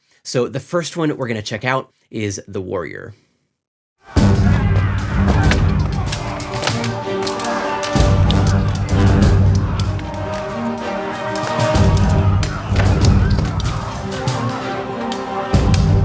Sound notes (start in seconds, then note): 4.1 intense music; 6.8 people shouting; 6.8 weapons clashing